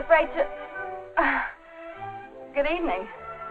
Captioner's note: chuckles